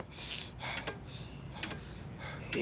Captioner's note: breathing heavily